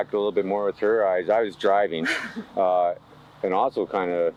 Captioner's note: laughs